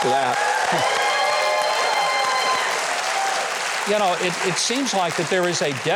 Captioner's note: audience applauding